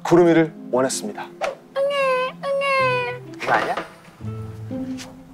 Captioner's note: crying